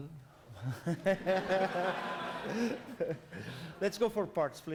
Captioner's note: laughter